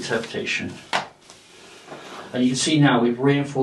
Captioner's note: rope rustling